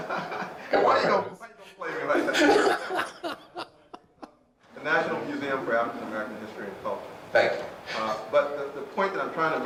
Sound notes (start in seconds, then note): 0.0 chuckles; 2.0 laughter